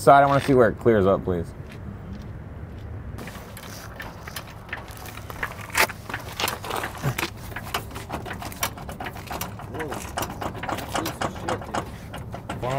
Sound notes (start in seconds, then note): none